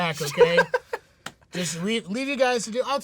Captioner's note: laughing